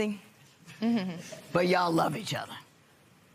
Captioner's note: chuckles